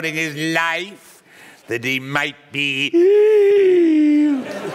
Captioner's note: inhales sharply